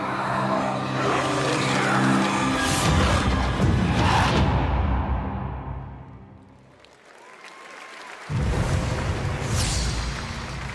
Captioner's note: screaming